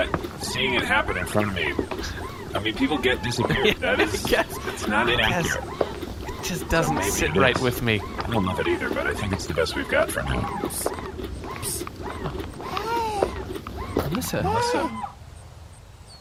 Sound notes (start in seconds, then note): 5.8 laughing